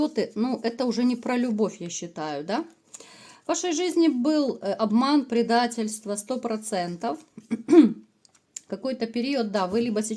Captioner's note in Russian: откашливается